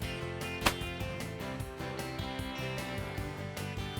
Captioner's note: loud gunfire